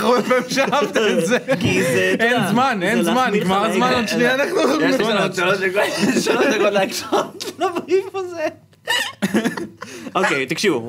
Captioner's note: laughs; snickers